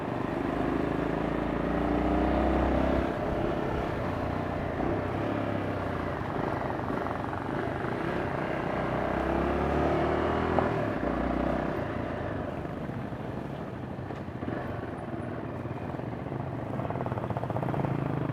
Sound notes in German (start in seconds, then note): 6.5 Motorengeräusch